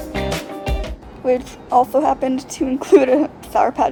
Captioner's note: laughing